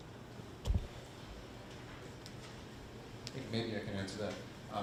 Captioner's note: none